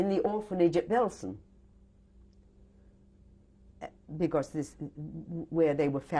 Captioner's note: pauses for 3 seconds